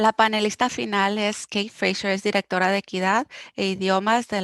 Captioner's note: speaking foreign language